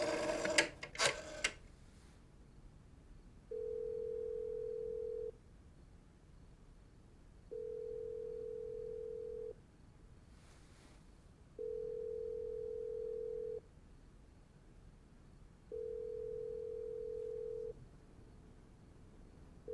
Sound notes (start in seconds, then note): 3.5 phone ringing